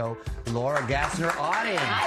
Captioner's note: cheers and applause